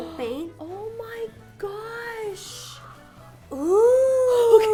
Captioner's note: gasping